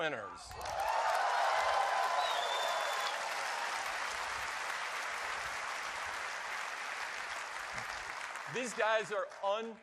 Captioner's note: cheers and applause